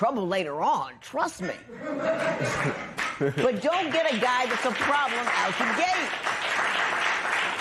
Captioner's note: laughter